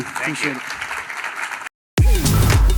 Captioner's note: applause